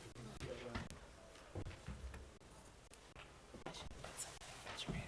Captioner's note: board chatting quietly